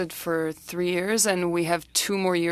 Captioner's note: speaking French